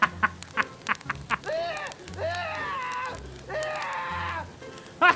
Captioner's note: screaming; evil Laugh